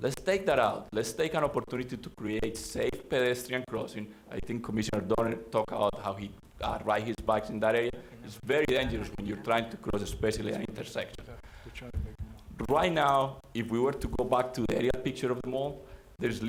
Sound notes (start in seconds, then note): 11.7 board chatting quietly